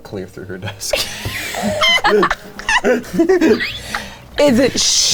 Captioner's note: people wheezing & chuckling